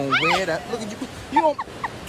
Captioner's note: laughs